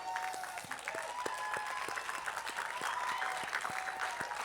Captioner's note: attendees applauding